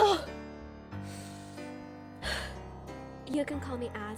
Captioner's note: ASMODEUS takes a deep breath